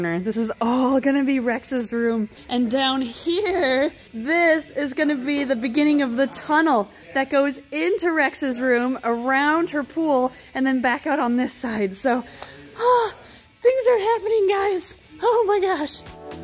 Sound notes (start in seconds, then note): 12.2 sighs; 15.9 bright music